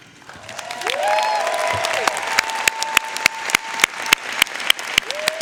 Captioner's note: audience cheering and applauding